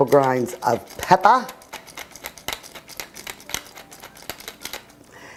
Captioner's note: pepper mill grinding